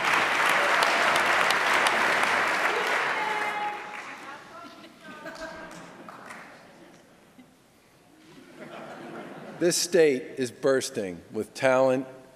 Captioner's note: applause; laughter